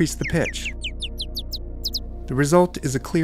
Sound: bluebird warbling

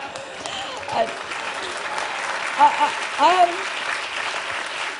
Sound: laughter; applause

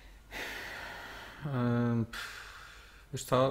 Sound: sigh

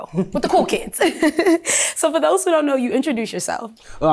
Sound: laughs

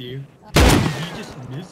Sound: gunshot

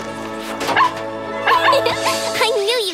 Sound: barking

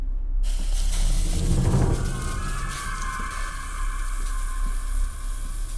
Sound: hissing sound

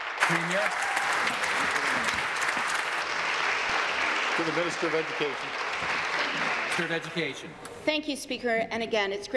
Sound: applause

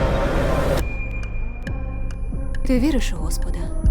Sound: high-pitched ringing

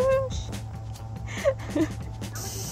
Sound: laugh

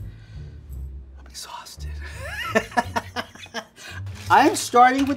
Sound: soft jaunty music; laughs

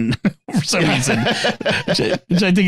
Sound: laughing

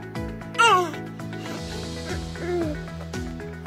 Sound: baby coos

